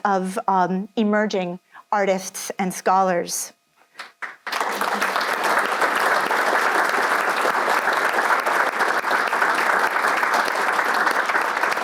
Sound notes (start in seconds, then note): 4.0 audience applauds